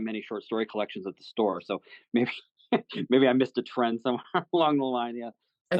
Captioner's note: laughs